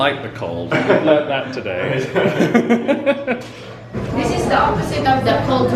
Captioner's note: chuckles